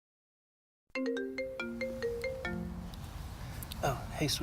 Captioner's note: phone Ringing